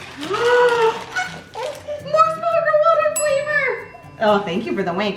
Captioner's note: gasps